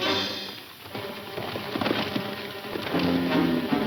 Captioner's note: hooves galloping